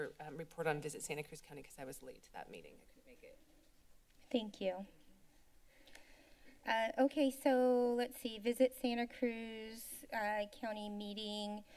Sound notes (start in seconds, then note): 3.5 silence; 5.9 clicks Tongue; 11.5 inhales